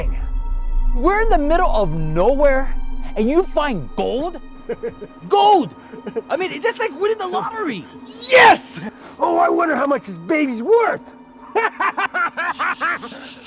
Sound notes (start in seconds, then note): 11.4 laughing